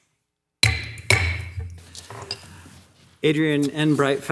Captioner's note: gavel banging